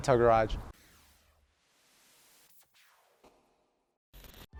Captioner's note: white noise